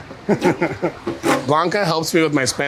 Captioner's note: laughing